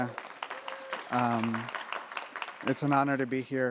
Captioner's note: audience applauding